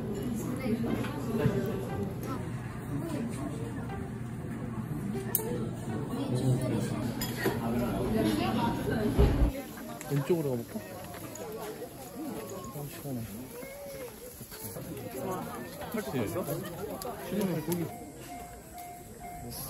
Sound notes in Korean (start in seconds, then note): 14.7 북적북적